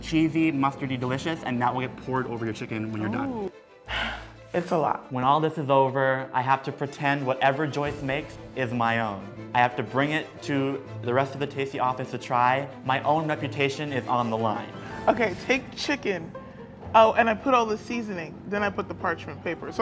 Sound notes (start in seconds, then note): 3.8 sighs